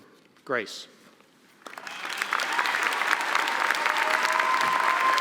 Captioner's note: applause